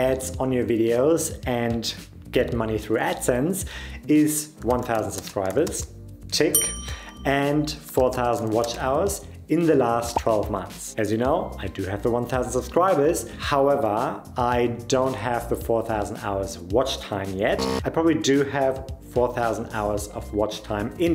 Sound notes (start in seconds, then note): 6.5 bell dings